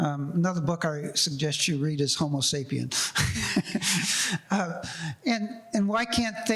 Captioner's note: laughs